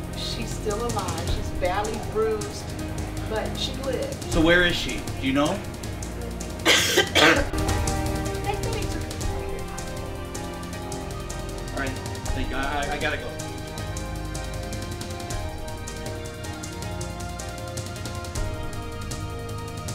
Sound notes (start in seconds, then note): 6.6 coughs; 16.0 intense instrumental music